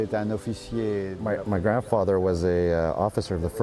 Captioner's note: speaking foreign